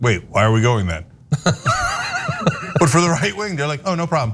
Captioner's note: laugh